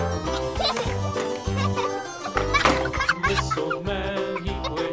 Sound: child laughing

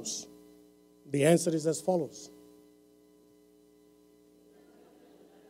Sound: laughter

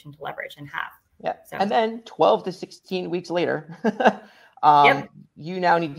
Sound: chuckles

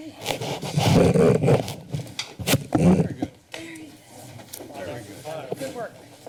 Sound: rumbling sound

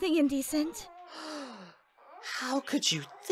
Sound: MAKOTO gasps

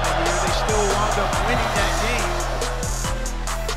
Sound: crowd noise

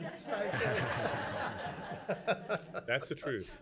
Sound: laughing

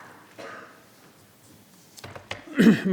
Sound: coughing; clears throat

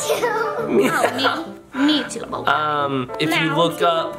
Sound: laughs

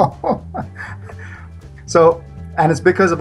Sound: laughs

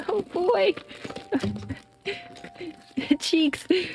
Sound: struggling Sounds

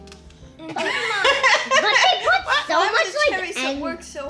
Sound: laughs

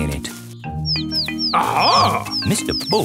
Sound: chirping

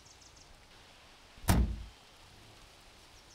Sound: car door latches

